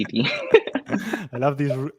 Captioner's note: both laughing